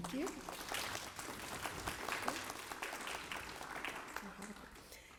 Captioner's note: applause